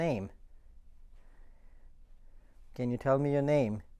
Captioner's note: silence